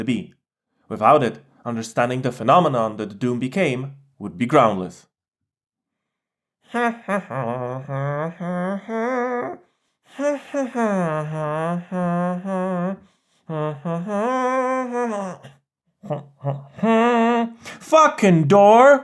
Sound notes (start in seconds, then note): 6.6 hums national anthem